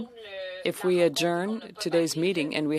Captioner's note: speaking French